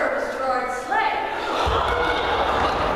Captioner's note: cumulative Gasp